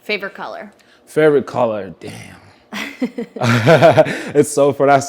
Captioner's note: both laugh